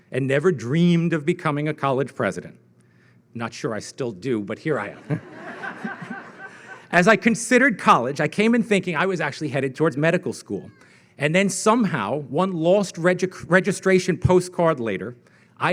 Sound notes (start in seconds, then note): 4.8 audience laughing